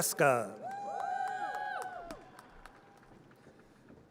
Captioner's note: audience cheers